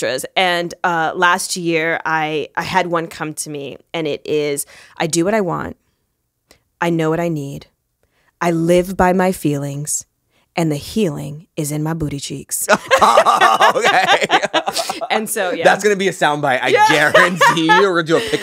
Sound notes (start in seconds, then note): 12.7 both laughing; 16.6 Monique laughs